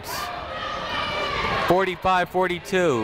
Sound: people shouting in the crowd

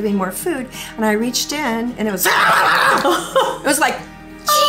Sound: making animal noises

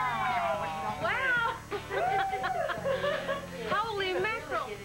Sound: laughs

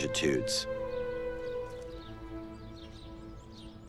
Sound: birds chirping

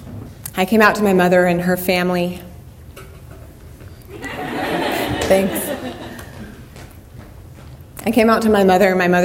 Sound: laughter

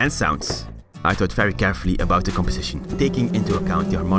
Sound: increasing bee sounds

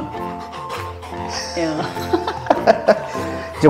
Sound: laughs

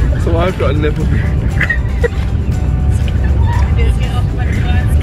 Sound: both laugh; laughs

